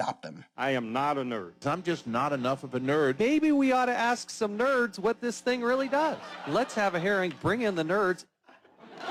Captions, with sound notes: I AM NOT A NERD. I'M JUST NOT ENOUGH OF A NERD. MAYBE WE OUGHT TO ASK SOME NERDS WHAT THIS THING REALLY DOES. [ LAUGHTER ] LET'S HAVE A HEARING, BRING IN THE NERDS.